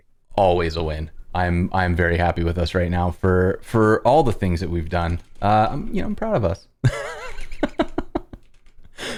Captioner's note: laughter